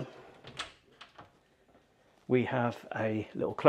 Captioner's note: door clunking